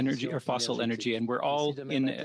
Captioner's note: speaking French